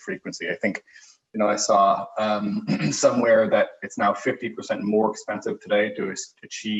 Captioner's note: cough